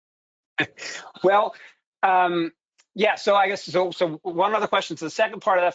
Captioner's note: chuckles